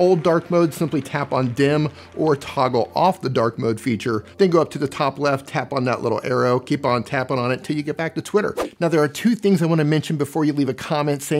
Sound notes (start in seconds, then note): 8.5 swishing